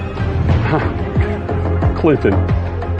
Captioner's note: chuckling